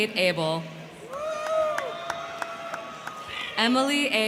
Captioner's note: crowd cheering; crowd clapping